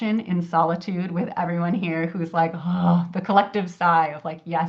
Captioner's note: sighs